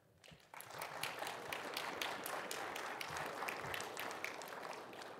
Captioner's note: audience applauding